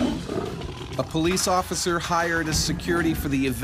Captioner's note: voiceover